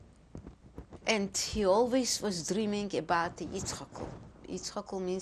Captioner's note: non-english